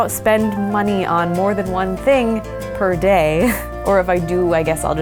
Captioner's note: laughs